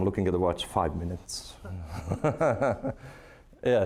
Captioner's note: laughing